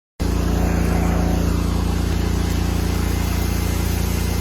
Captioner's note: pressure washer running